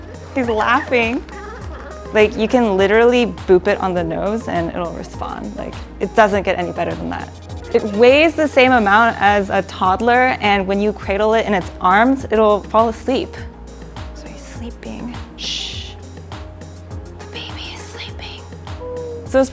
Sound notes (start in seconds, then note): 17.2 shushes